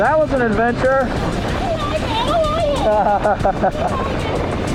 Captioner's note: laughing